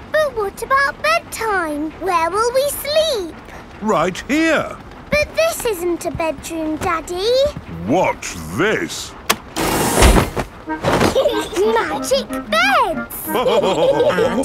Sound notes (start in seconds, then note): 11.0 laughing; 13.2 all laughing